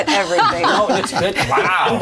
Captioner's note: all laugh